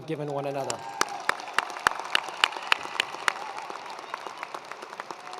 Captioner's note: attendees applauding